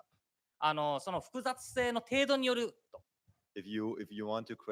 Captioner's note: speaking japanese